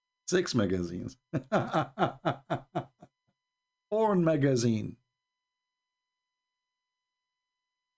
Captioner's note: Ketawa